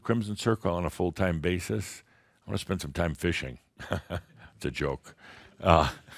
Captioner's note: chuckles